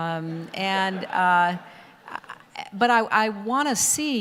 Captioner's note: audience laughter